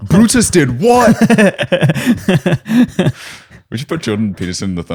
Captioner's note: laughter; laughs